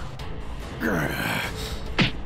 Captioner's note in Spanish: Gruñidos